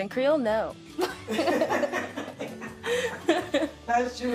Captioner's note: laughing